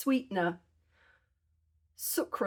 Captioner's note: none